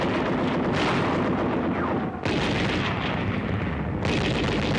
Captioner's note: guns firing